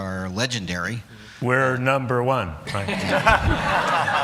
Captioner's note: laughter